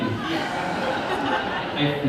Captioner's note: audience laughter